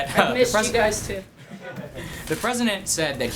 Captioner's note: laughter